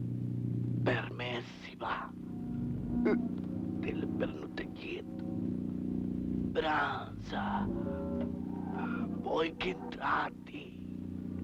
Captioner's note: speaks in foreign language